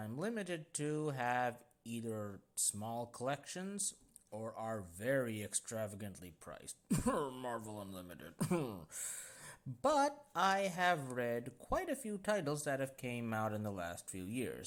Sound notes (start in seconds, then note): 5.4 cough; 6.9 unconvincing cough